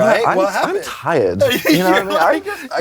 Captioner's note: laughing